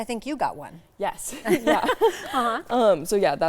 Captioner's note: laughing